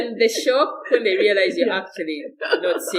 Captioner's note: laughter